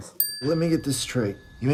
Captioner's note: bell dings